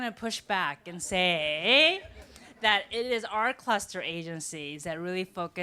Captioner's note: laughter